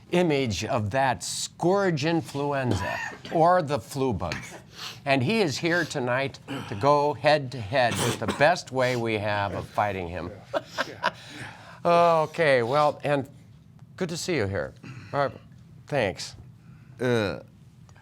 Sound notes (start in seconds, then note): 11.6 coughing